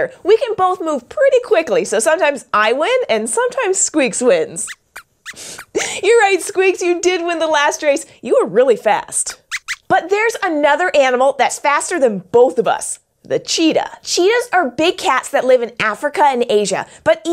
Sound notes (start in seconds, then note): 4.6 squeaks squeaks